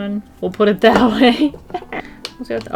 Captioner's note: laughs